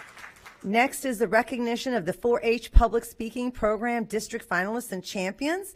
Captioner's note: applause